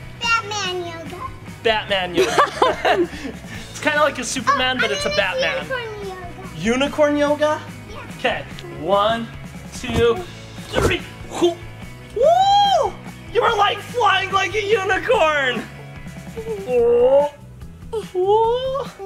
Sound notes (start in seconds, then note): 2.1 laughing; 12.0 wooing; 16.5 grunting